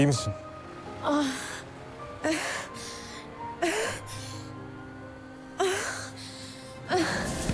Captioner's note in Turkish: İnliyor